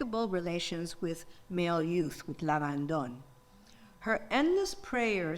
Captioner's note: speaks in foreign language